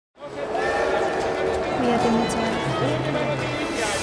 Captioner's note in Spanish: voz de mujer